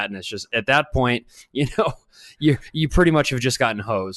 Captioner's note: chuckles